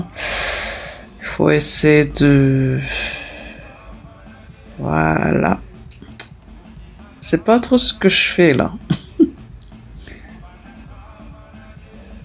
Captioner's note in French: Rires